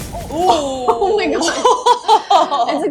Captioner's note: laughs